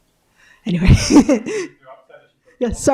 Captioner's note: chuckles